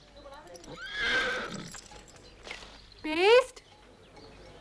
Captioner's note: horse neighs